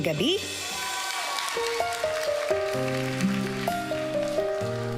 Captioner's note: audience applauding